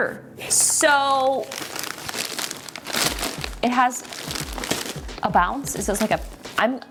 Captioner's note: wrapper crinkling